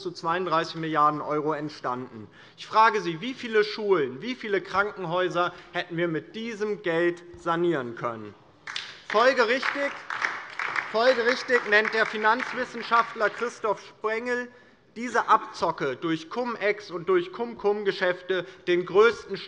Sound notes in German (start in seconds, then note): 8.6 Beifall DIE LINKE